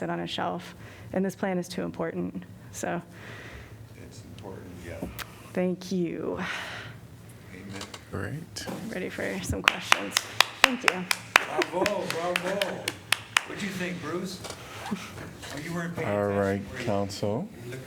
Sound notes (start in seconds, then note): 9.6 applause